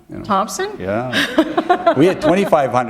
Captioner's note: laughter